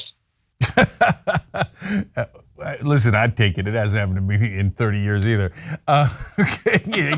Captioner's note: laugh